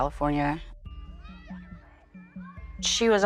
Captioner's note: children yelling